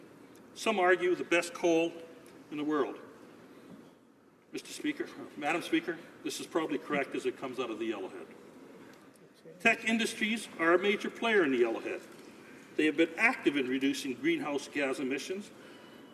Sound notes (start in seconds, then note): none